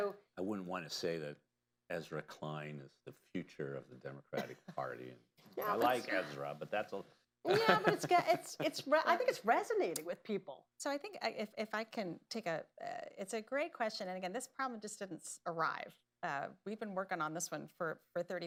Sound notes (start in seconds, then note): 4.3 laughter; 7.5 laughs